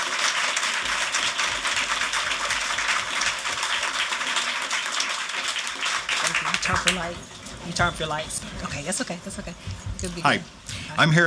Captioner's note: applause